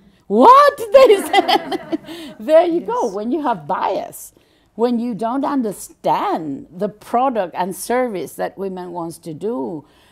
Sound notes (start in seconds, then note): 1.0 general laughter